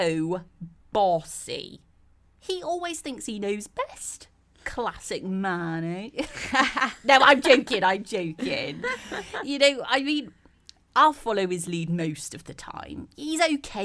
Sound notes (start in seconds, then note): 8.4 laugh